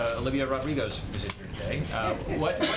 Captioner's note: laughter